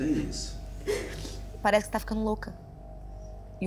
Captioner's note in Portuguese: soluça; riso nervoso